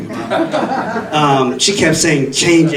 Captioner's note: audience laughing